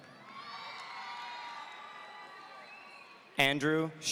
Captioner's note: audience cheering